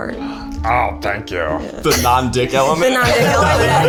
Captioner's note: in puppet voice